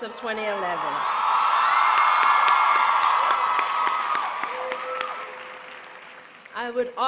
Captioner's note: applause